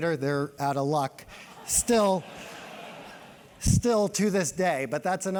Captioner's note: laugh